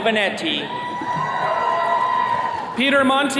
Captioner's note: attendees cheering